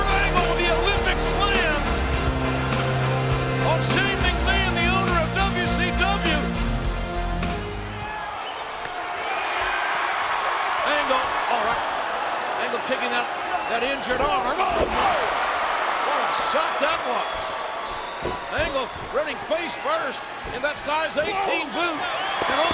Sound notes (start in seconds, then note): 8.0 audience cheering